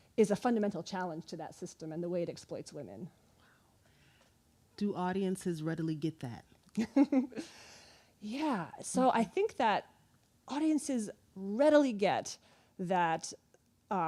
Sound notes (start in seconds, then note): 7.5 laughing